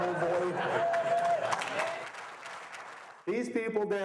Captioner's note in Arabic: الجمهور يضحك